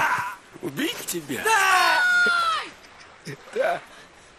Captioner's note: scream